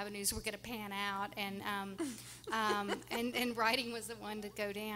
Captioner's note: laughing